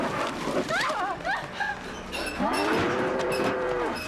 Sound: both Scream, Shudder; snarling Continues

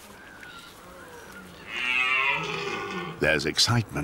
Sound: red deer roars

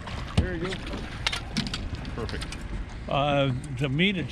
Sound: tackle clattering

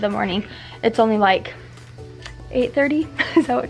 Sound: laughs

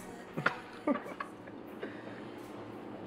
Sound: giggling

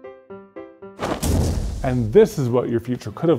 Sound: playful music; faint explosion

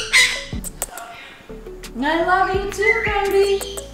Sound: kisses

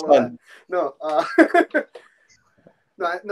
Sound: laughing

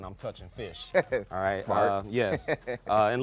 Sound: laughing

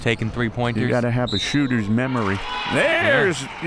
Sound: whistle

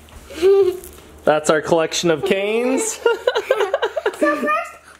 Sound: laughs

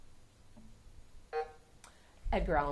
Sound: buzzer sounding

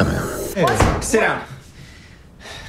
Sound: sighs

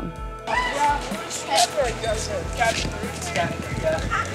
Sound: boys chatting

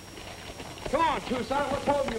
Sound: none

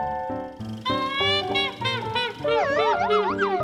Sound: trumpeting laughter; woozy calliope

